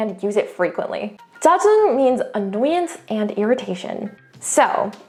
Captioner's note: speaks in Korean